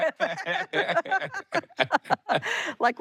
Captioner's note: both laugh